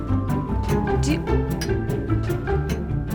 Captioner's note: stammer